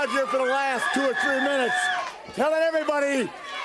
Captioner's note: crowd cheering